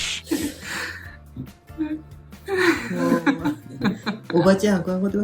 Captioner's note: laughs